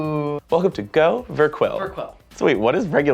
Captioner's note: echoing